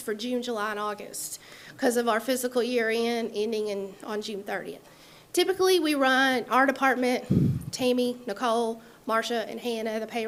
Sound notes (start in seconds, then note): none